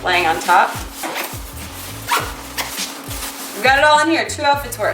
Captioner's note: zipping